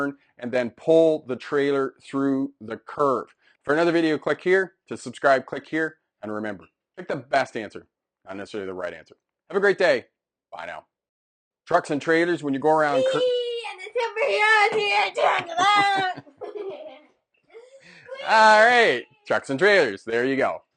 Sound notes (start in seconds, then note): 15.4 both laughing